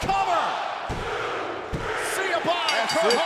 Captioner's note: crowd cheering